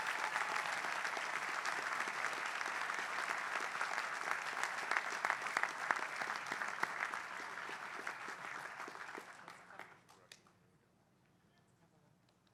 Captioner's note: applause